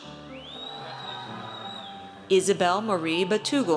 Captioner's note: audience cheers